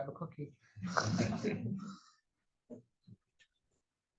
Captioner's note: chuckles